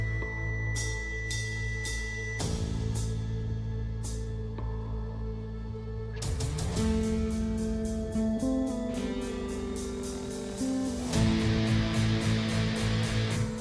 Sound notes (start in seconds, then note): none